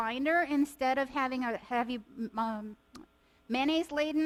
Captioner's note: faintly speaking